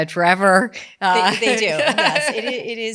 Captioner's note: laughs